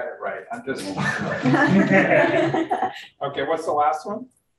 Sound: room laughs

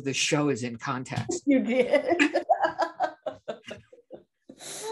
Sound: both laugh

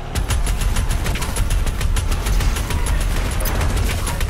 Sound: gunshots booming

